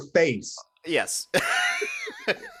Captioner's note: both laughing